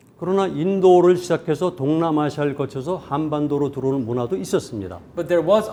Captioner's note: speaking in Korean